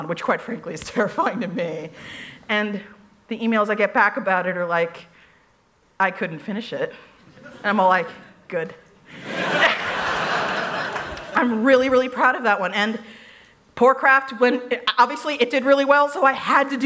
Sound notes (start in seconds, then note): 9.1 laughter